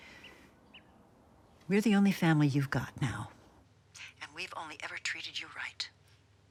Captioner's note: none